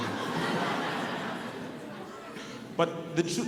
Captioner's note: audience laughing